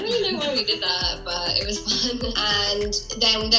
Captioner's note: laughing